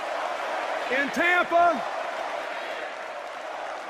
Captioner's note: cheers and applause